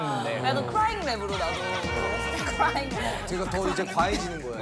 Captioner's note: crying rap that comes out when gets excited